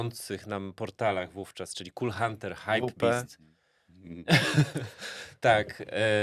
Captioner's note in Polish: śmiech